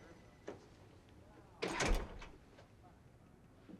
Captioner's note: door open close